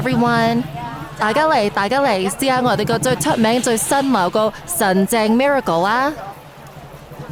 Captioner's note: in Cantonese